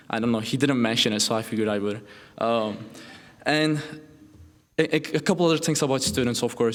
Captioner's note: none